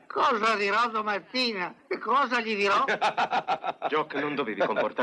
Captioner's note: laughs